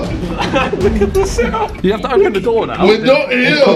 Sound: laughing

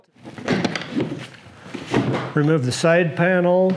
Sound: plastic clanking

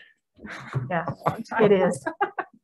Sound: laughing

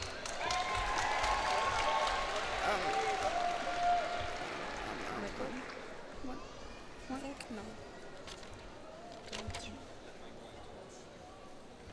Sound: cheers and applause

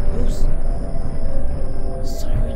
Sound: sirens and Rumbling

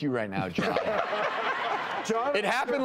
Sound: laughing

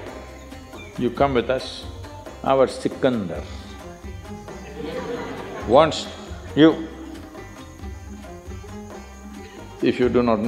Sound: laughter

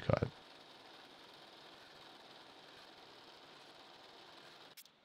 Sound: milling machine whirring

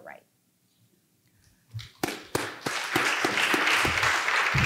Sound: applause

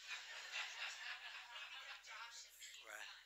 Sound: laughter

